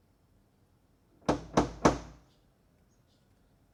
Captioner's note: knocking at door